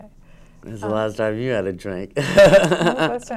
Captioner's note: laughs